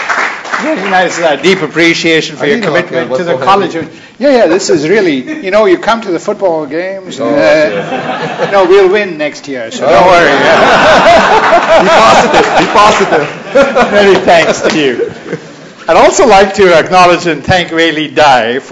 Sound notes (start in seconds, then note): 0.0 applause; 7.5 laughter; 10.1 laughter